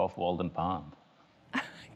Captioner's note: laughter